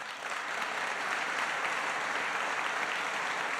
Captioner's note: applause